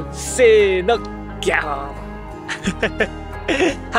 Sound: lion roar in Japanese

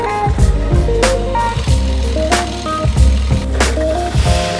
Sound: rotor motor humming

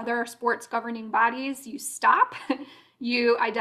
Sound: laughter

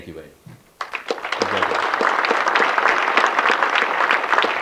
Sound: audience clapping

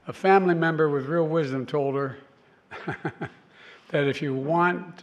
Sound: laughs

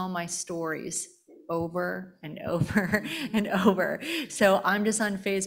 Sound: chuckling

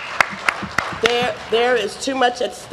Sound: applause

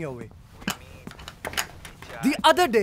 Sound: clattering sound

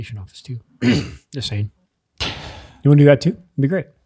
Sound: coughs

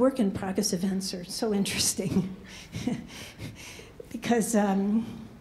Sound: laughs

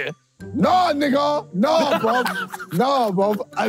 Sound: shouting

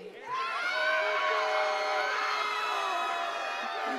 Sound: crowd cheering

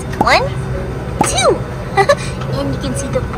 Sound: laughs

